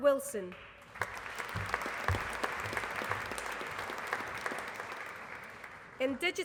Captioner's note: applause